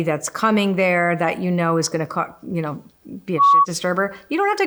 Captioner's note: beep